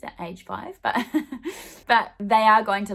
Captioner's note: laughing